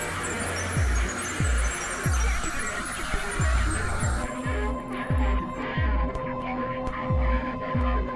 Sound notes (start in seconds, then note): 4.3 distorted sounds